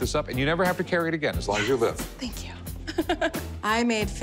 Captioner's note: laughs